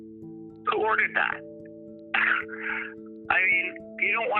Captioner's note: scoffing